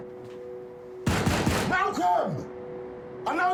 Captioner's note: Sonny pounds on door